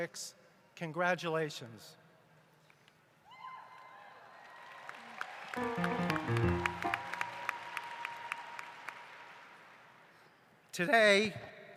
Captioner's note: applause